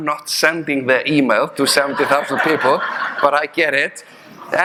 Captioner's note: audience laughing